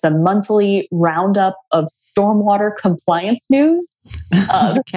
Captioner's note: laughs